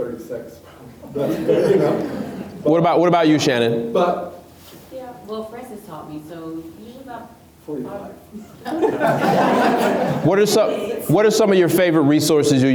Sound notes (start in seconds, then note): 1.1 laughs; 8.5 laughs